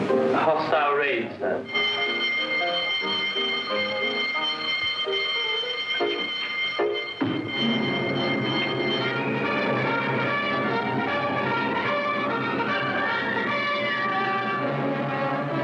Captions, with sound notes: A hostile raid, sir. (alarm rings) (dramatic music)